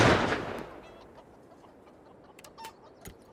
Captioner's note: chickens clucking